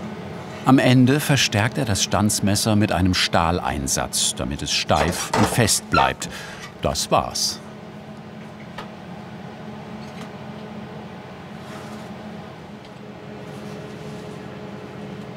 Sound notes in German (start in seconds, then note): 8.9 Leises Maschinenrauschen